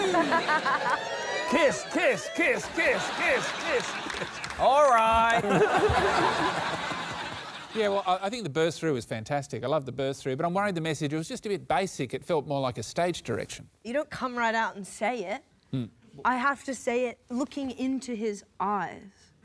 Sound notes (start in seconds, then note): 1.7 chants; 5.1 laughter